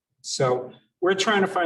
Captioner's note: none